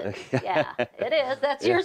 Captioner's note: laughing